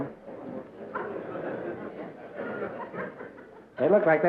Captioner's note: laughter